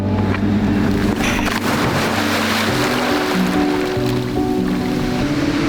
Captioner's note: water splashing